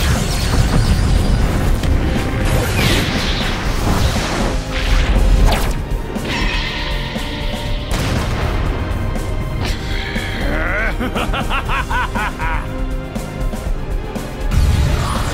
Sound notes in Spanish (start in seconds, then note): 10.2 Gruñe airadamente; 10.4 Risas